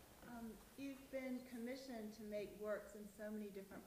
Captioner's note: voiceover